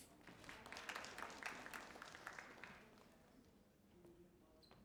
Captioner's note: audience applauding